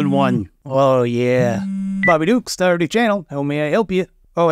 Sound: phone buzzes

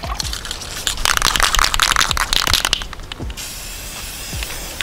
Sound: spray can clicking

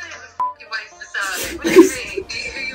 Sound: beep

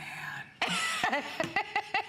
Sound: laughter

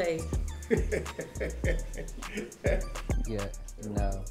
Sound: laughing

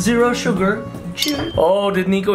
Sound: glasses clink

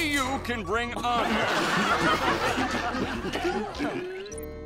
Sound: laughing

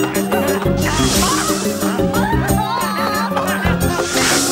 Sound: chase music; witch yells

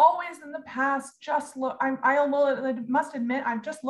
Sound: stammers

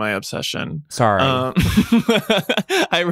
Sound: laughing

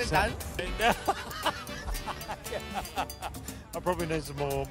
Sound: laughter

